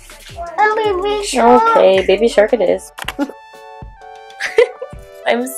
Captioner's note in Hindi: हंसते हुए।